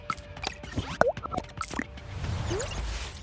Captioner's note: logo whooshing